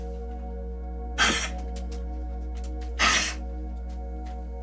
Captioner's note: coughs